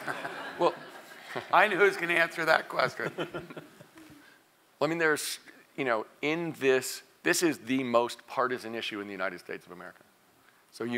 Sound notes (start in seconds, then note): 0.3 laugh; 3.2 laugh